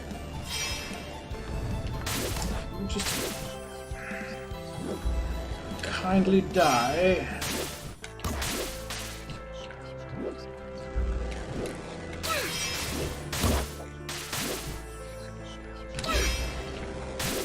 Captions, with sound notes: Would you just... [sighs] ...kindly die? [creepy whispers]